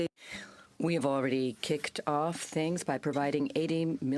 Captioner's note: speaking french